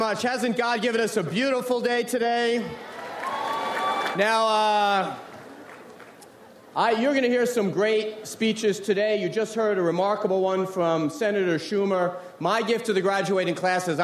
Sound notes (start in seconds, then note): 2.7 audience cheers